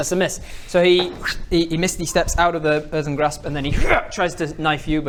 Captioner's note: hrrrgh